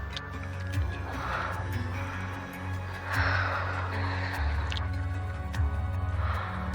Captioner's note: Marlee gasping over eerie and tense electronic music